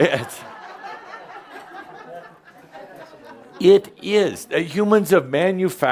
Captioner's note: laughter